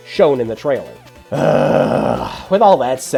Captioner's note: siiiiiigh